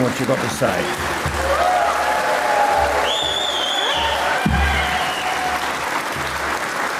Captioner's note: audience applauds; audience cheers